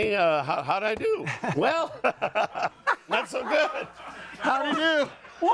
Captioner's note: audience laughing